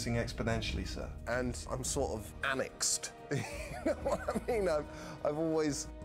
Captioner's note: chuckles